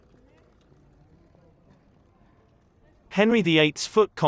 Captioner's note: people chattering